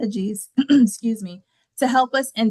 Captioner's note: clears throat